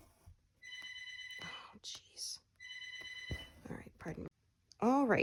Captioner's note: phone rings